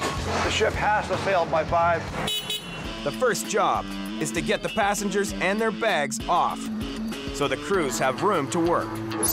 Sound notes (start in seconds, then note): 2.2 forklift honks